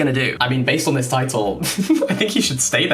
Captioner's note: laughing